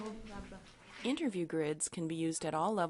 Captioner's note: voiceover